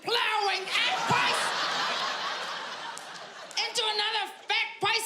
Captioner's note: audience laughing